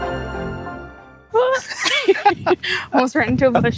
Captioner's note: laughter